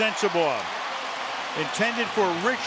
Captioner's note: cheering